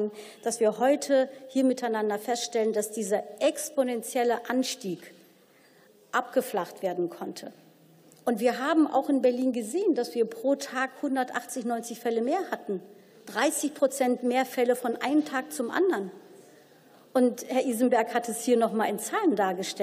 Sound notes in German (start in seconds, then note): none